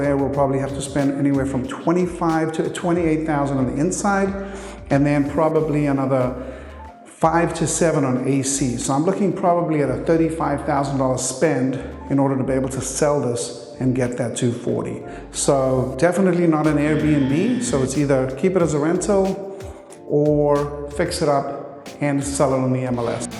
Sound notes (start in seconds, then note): 16.6 graphics beeping; 22.9 graphics whooshing